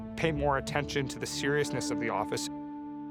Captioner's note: none